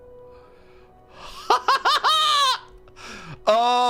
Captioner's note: excited laugh